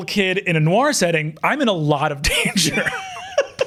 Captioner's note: laughs; chuckling